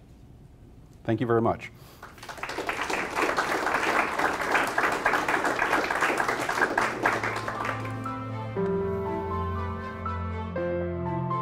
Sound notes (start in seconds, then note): 4.0 applause